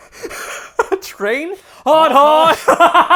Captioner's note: laughs; chuckles